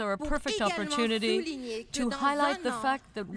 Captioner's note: speaking French